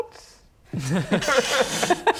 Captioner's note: unconvinced laugh